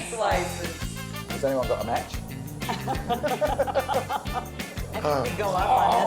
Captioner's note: laughs